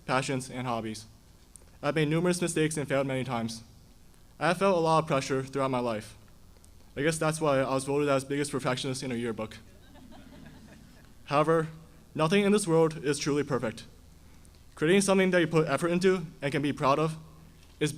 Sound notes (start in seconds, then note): 9.8 audience laughing